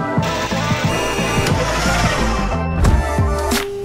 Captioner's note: machines whirring; upbeat pop music